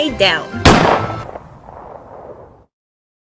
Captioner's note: abrupt gunshot